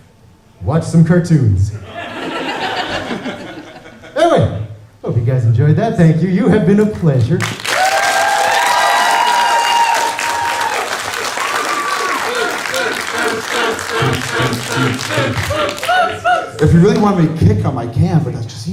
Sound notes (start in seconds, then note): 1.8 laughter; 7.4 applause